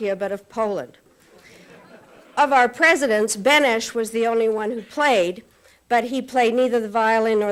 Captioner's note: laughter